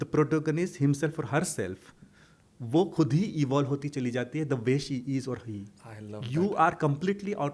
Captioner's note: hindi